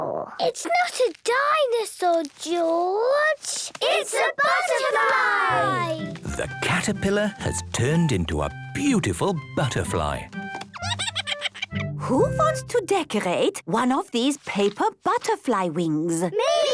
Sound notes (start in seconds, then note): 10.8 giggles